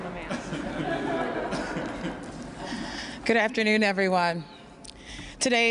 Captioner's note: laughter